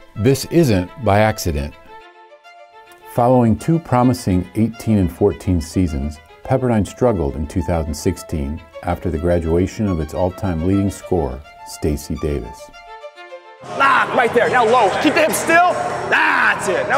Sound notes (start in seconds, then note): 13.6 yells